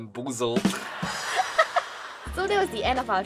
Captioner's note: chuckles